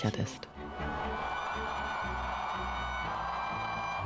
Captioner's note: crowd cheering